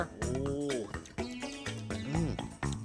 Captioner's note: munches